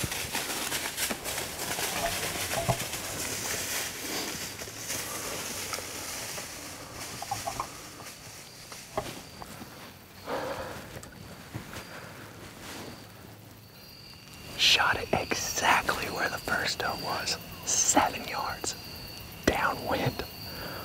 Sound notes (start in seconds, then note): 9.0 whispering